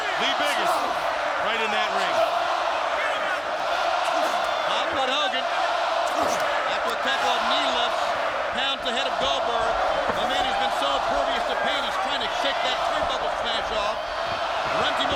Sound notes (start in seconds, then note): 2.6 crowd chanting